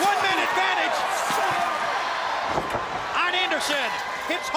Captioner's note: crowd cheering